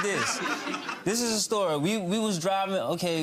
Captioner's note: audience laughing